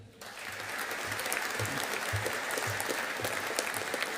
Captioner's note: audience applauding